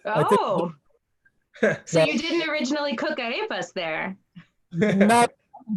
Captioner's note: laughs